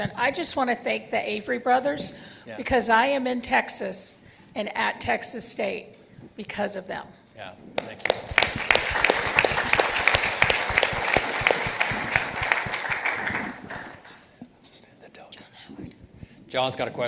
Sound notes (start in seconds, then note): 7.8 participants applauding